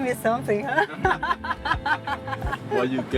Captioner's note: laughs